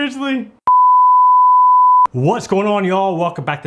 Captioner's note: beep